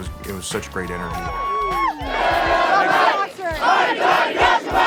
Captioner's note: crowd cheering